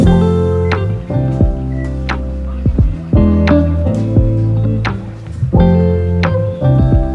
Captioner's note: laughs